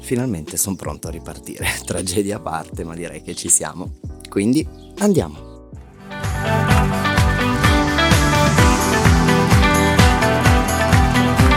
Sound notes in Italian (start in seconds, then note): 10.4 Applauso